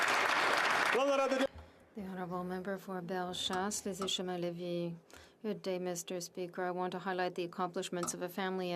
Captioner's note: some Applause